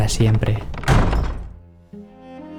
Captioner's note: door